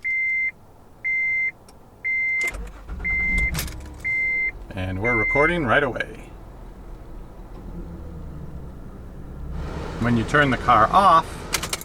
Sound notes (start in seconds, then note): 0.2 beeping; 2.4 engine starts